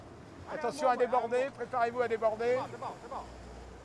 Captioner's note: man speaking French